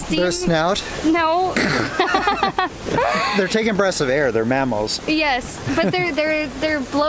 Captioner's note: laughter